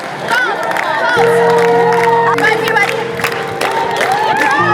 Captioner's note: clapping